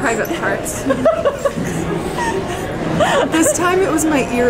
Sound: laughs

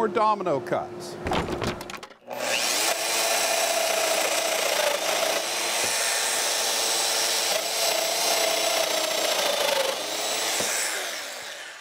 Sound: Domino cutter whirring

